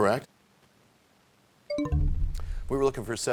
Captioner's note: bell chimes, time expires